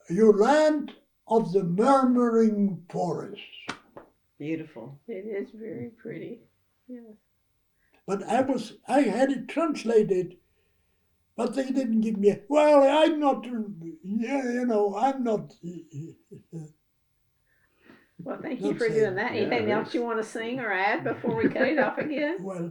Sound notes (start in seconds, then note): 11.3 in Polish